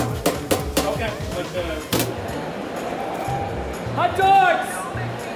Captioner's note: vendors chatter